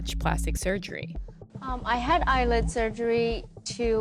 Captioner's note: soundbite of archived recording